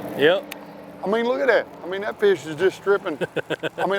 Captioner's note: water splashing; man laughing